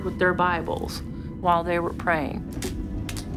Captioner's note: light crackling